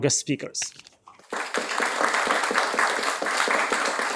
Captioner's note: applause